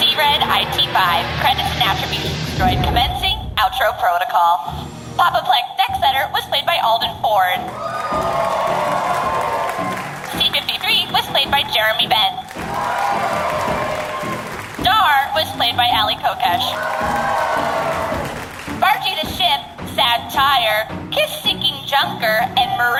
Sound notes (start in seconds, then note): 7.6 cheers and applause